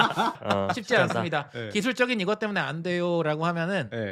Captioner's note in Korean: 웃음